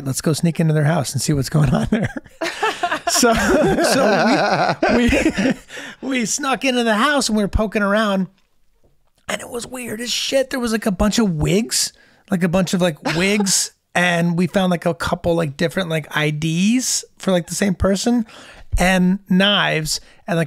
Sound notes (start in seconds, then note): 3.1 all laughing